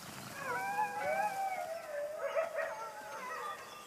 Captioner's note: whines